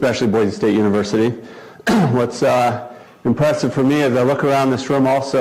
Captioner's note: cough